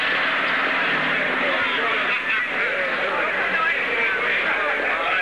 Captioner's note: chattering